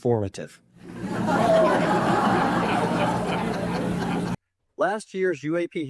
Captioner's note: audience laughing